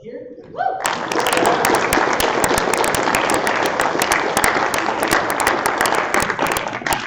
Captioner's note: applause